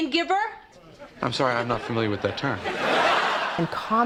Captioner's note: laughter